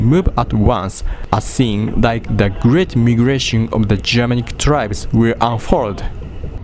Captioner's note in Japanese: 棒読み